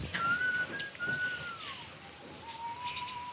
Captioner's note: whistling